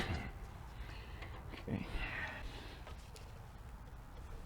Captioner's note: grunting